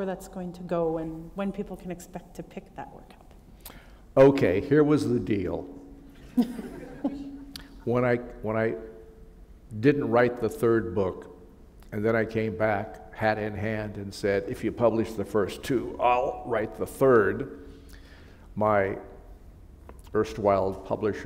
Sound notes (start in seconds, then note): 6.2 laughter